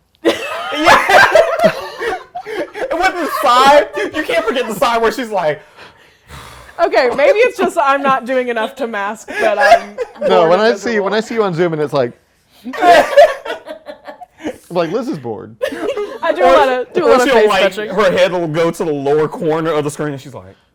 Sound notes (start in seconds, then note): 0.2 laughing; 6.2 sighs; 12.7 laughing